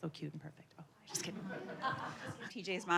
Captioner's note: audience laughing